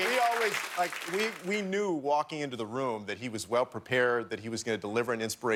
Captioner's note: cheers and applause